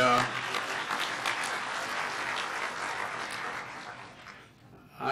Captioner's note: clapping